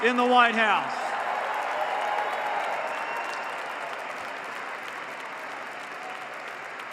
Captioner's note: applause